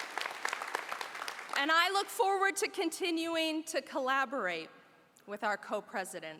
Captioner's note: applause